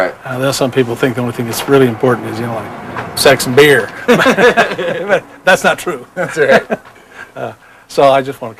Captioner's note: laughter